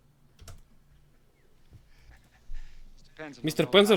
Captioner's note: chuckles